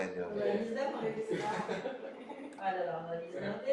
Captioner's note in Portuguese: risos